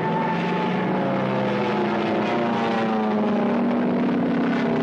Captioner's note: plane engines roaring